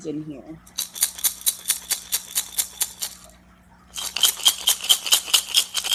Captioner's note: rattles